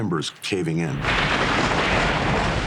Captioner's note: roof crashing